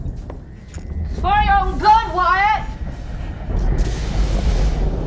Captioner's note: thunder & lightning